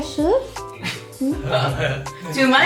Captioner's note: coughs